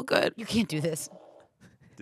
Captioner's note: fart machine farts